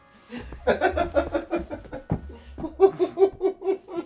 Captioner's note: Irving laughing